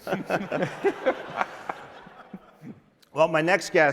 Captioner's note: laughter